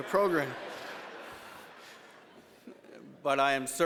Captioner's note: laughter